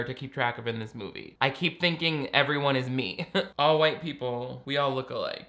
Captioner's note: laughs